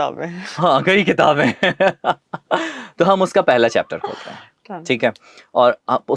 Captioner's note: laughter